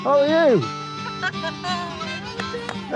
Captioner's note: laughter